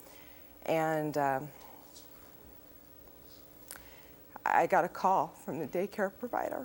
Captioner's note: voice breaks